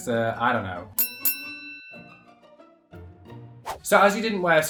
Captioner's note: ring bell chimes